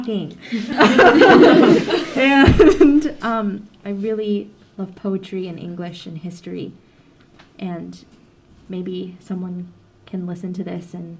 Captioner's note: laughter